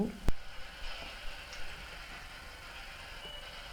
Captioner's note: white noise